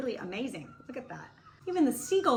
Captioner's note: seagulls squawking